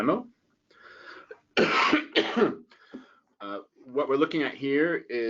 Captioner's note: coughing